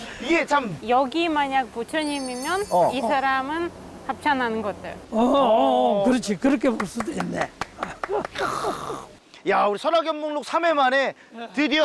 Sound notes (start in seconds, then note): 6.7 A round of applause